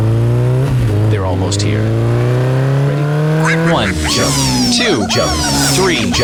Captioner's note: motorcycle accelerates, coming closer; chicken sounds